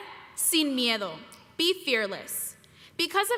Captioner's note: speaking foreign language